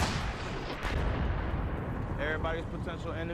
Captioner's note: gunshots